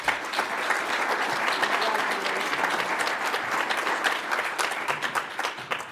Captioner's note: audience applauds